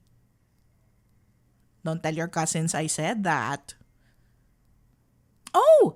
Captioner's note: playful